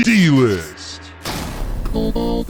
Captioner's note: crashing sound